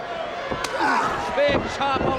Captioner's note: chop striking; Sting exclaiming